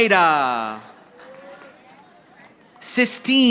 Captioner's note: audience applauding